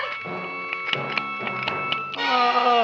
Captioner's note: Audrey Jr. snapping